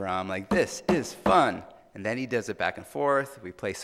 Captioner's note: tapping